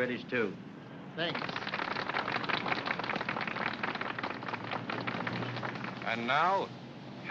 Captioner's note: applause